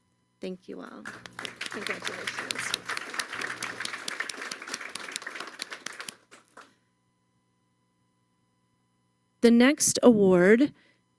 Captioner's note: applause